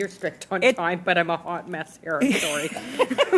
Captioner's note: laughter